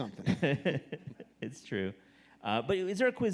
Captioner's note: laughs